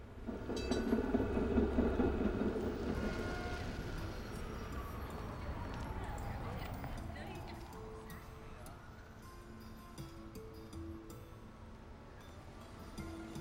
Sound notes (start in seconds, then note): 0.2 tram bell ringing; 2.8 traffic noises; 8.0 traditional music playing